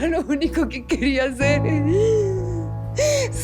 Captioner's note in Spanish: Sollozos